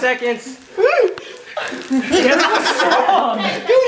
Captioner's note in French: Rires